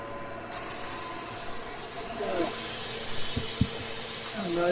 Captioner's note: motors whirring